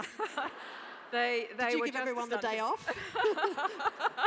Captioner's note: laugh